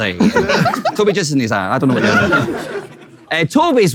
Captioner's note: people in room laughing